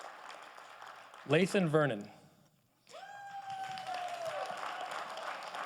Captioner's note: audience applauding